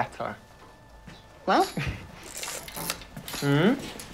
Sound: Nyela laughs

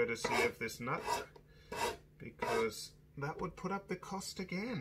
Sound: metals rubbing

